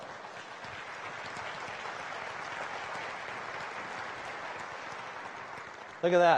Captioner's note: applause